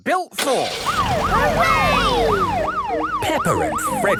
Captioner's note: siren